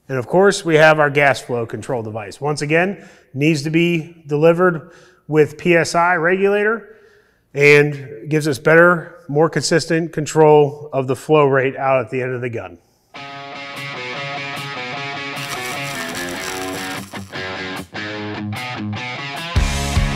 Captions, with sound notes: And of course, we have our gas flow control device. Once again, needs to be delivered with PSI Regulator and gives us better, more consistent control of the flow rate out at the end of the gun. (upbeat music ending) (welding sparks)